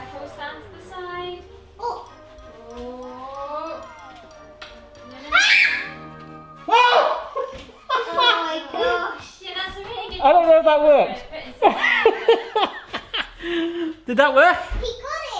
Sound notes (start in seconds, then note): 6.6 screams; 6.9 shouts; 7.0 laughs; 11.6 laughing